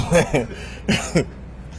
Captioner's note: laughs